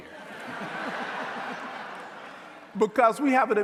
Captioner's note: audience laughing